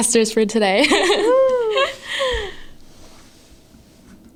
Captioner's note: laughs